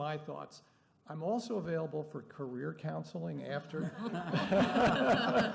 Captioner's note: laughter